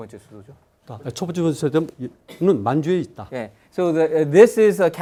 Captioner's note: speaking in Korean